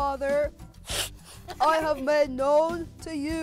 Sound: sniffing

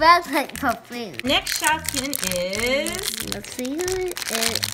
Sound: voiceover

